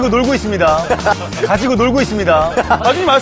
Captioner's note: laughing